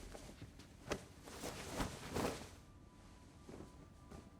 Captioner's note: coat rustles